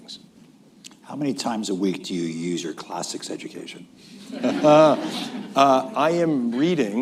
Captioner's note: laughter